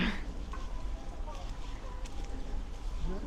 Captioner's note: deer scare makes a noise